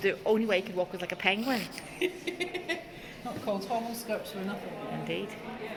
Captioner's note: laughter